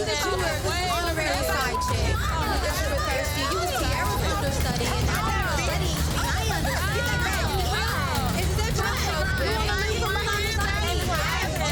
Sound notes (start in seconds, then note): 1.6 beeps; 2.7 overlapping chatter